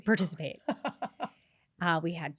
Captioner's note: laughs